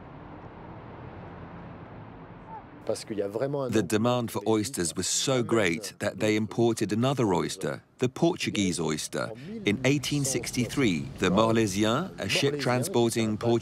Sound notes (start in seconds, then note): 0.8 wind blowing; 3.3 speaking in foreign language